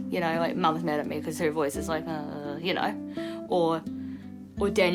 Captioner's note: imitates tone